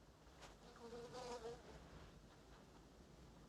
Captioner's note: buzzing fly